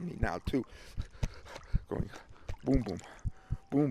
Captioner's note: heart beats